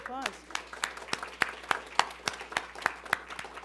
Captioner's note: applauding